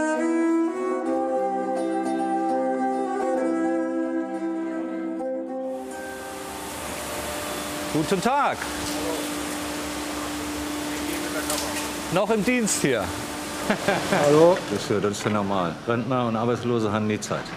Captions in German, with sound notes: (Rauschen) Guten Tag. (Lautes Dröhnen) Noch im Dienst hier. Hallo. - Das ist ja normal, Rentner und Arbeitslose haben nie Zeit.